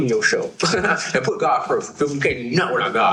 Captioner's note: chuckles